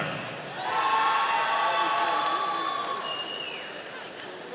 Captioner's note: audience cheering